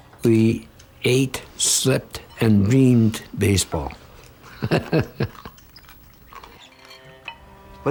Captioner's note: laughter